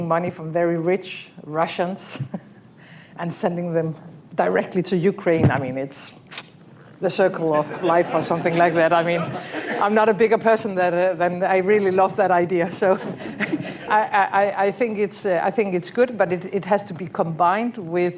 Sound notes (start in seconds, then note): 2.2 laughs; 9.0 laughter